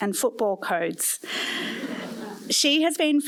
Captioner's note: laughter